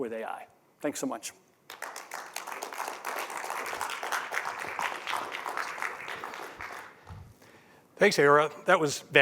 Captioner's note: applause